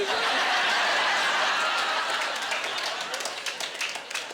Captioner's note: laughing